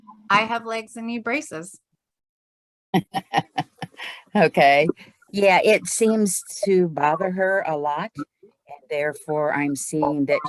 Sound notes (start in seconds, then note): 3.0 attendee laughing